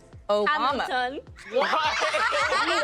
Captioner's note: all laughing